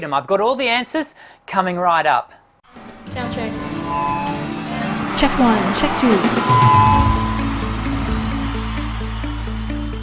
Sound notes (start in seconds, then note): 4.3 electronic whirring; 7.5 cheering and drums